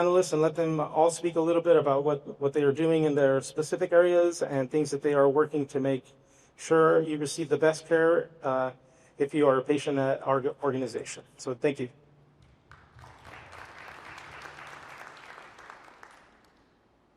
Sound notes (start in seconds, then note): 12.4 applause